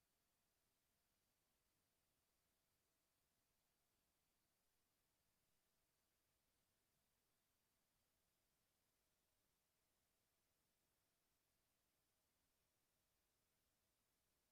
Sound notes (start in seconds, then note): none